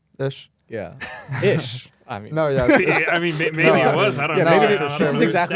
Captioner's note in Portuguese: risos